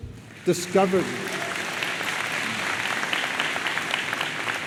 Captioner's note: audience applauds